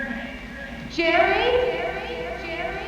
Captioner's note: echoes